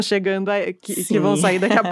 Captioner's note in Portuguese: risos